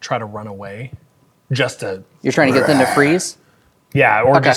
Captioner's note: roars